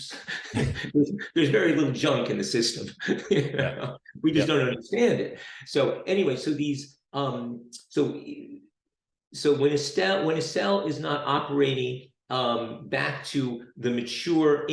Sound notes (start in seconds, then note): 3.0 laughs